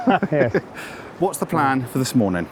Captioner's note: laugh